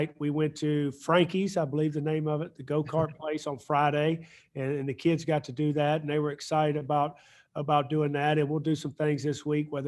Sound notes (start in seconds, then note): 2.8 chuckles